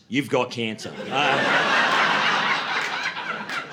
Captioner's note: laughter